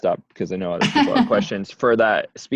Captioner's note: laughs